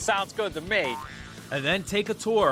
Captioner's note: spring boinging